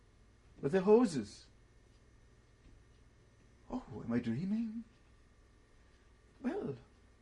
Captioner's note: pauses for 3 seconds